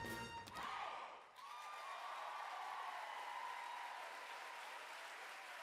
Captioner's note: audience applaud